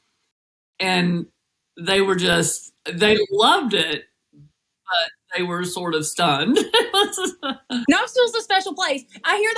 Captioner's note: laugh